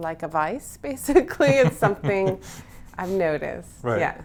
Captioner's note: both laughing